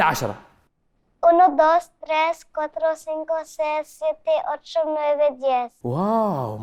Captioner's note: counting in Spanish